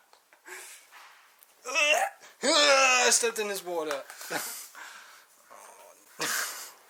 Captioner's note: screams